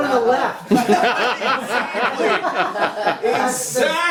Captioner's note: laughter